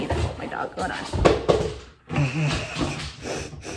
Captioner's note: laughs